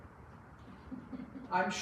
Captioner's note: laughs